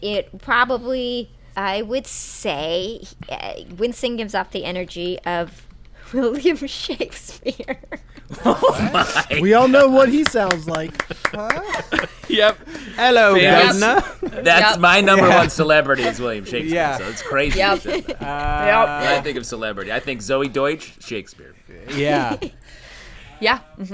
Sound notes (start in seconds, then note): 6.9 laughter; 13.3 cockney voice